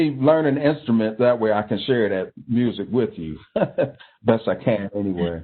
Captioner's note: laughing